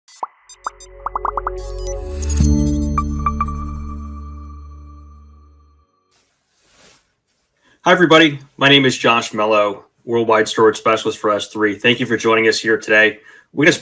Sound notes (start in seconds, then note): 0.7 bubbles popping; 2.3 electronic tones